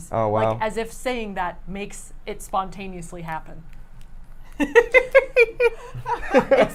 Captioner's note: laughs